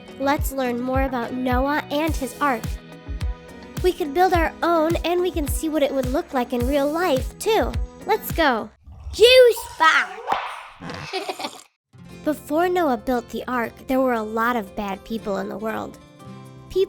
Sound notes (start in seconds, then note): 10.8 kids giggling